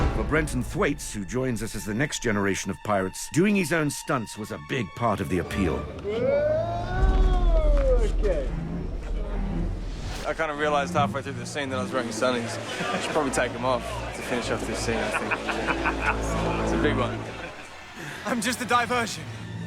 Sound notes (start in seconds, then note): 14.9 McNALLY LAUGHING